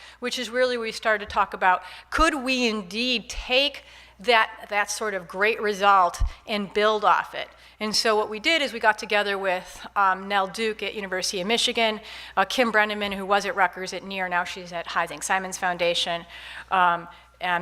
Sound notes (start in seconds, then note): none